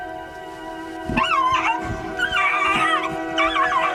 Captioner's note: dog screeching